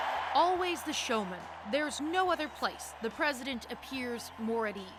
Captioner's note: cheers and Applause